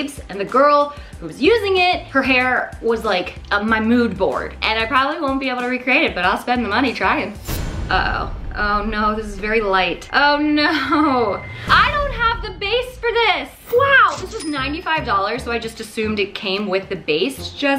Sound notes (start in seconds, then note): 7.4 impact sound effect